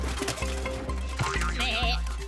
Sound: bleating

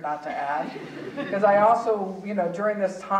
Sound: audience chuckling

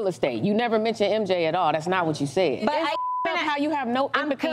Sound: beep

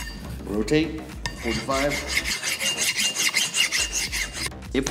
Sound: metal lightly scraping metal

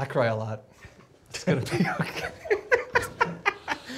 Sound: laughs

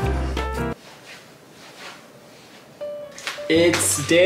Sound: clothes rustling

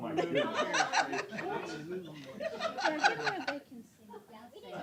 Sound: laughter

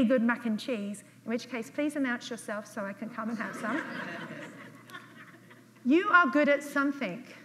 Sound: audience laughs

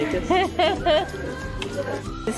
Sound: laughs

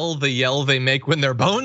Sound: laugh

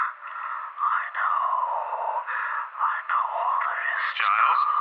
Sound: Giles mutters

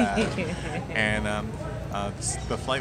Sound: laughs

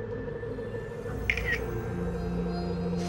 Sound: camera shutter clicks

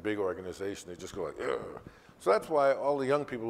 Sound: grunts

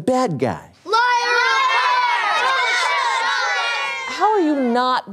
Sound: screams

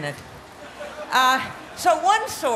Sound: laughter

